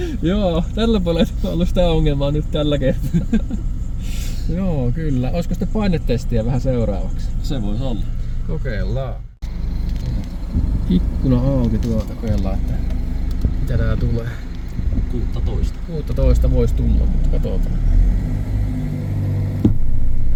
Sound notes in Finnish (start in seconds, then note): 2.8 naurua